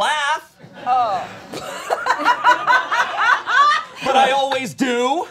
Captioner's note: all laughing